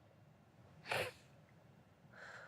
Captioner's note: sniffles; exhales